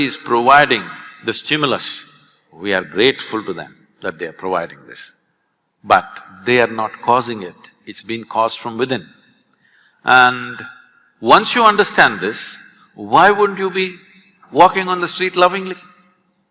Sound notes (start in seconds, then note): none